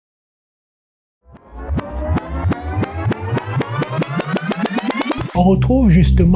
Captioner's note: rewind sound